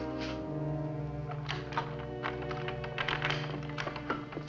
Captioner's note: unlocking door